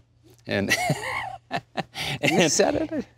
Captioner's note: Sam laughs